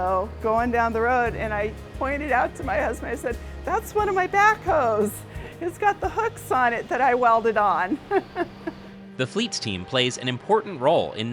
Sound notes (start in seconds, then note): 7.8 laughter